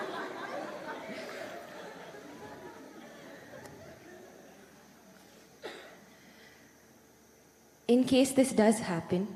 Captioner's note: laughter